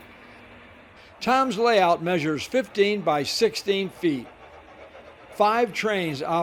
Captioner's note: voiceover